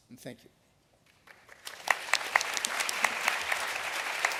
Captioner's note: applause